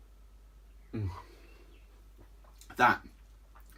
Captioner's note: sighs